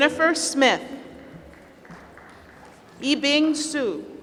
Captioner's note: applause; applause